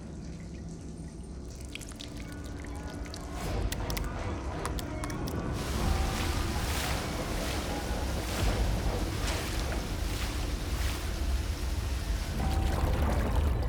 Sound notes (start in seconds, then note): 1.5 liquid sloshing; 5.5 liquid splashing